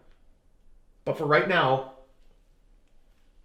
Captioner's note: none